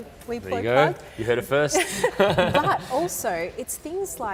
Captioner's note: laughter